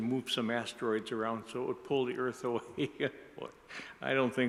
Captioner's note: laughs